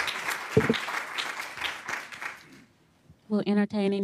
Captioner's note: applause